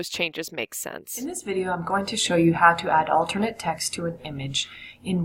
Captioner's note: video audio playing